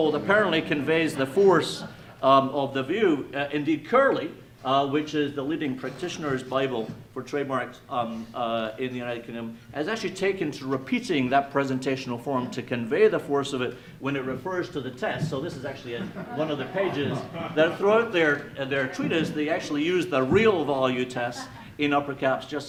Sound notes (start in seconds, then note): 15.5 attendees laughing